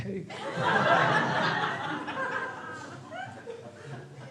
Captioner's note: crowd laughs